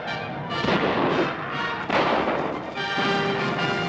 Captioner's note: gunfire